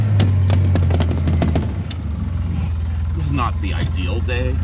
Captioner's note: engine rumbling; starter sputtering; hand thudding